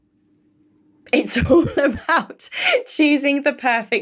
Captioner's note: laughs